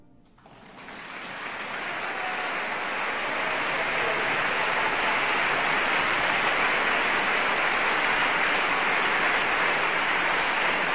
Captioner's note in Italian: applausissimo